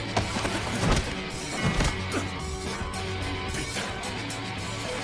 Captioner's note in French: les combattants grognent